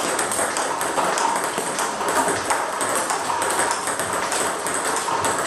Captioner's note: ball ping pong hitting continues